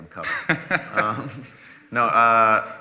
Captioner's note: laughing